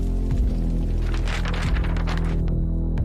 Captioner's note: page fluttering